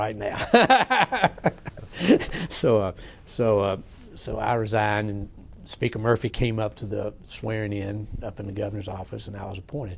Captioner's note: laughs